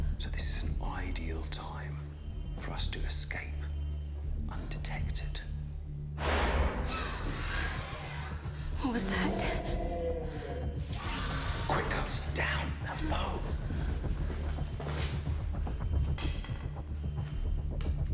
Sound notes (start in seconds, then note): 7.3 all gasping; 15.3 dramatic music